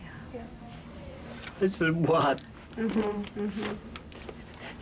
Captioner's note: crying